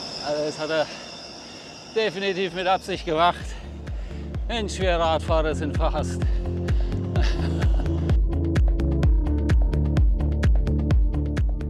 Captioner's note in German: gelächter